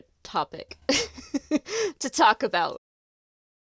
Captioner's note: laughs